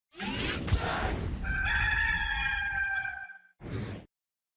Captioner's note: rooster crows